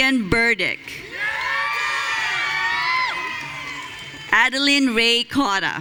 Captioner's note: audience cheering